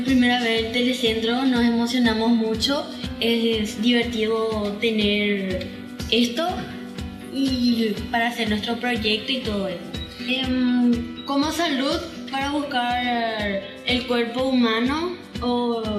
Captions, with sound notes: to the Web and all things digital. (Speaking non-English language)